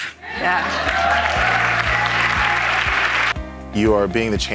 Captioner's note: audience applauding